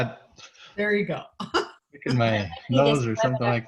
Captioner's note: laughs